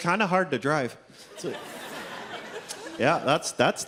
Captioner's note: audience laughs